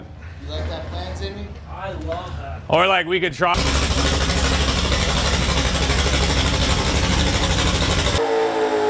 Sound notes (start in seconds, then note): 3.5 engine sputtering